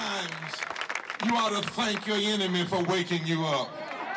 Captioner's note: crowd applauds